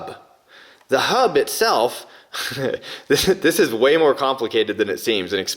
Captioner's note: laughs